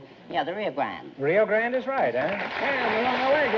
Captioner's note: applause